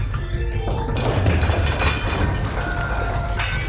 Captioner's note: antiques shattering